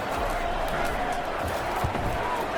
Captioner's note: crowd Noises